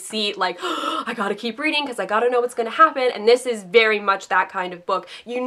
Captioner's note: gasp